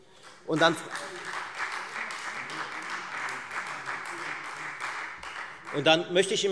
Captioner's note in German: Beifall Freie Demokraten